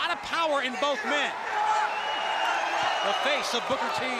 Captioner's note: crowd chatter